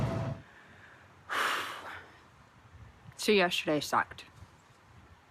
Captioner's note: exhales